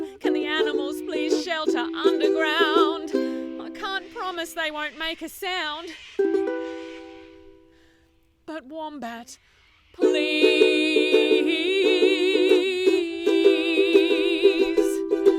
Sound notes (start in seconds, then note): 3.2 speaks; 6.0 loud birds squawk overhead; 9.0 sings